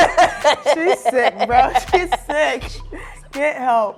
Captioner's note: laughing